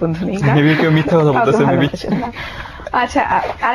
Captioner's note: laughing